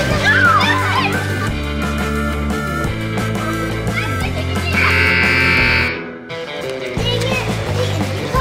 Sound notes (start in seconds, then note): 4.8 buzzer